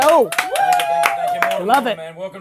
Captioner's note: cheering